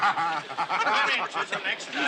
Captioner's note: laughs